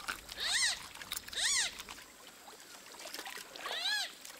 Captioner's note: otters squeaking